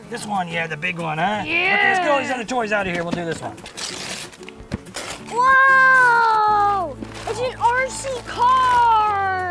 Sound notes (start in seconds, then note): 3.4 paper ripping